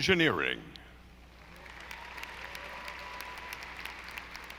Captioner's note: audience applauding